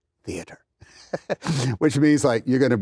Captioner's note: laughs